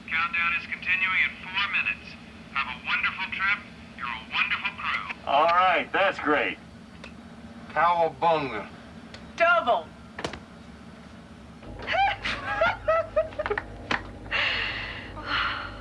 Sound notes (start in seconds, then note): 11.7 giggling